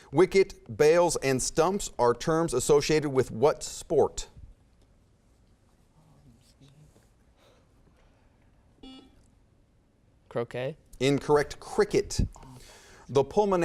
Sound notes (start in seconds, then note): 4.6 whispering; 8.8 beeping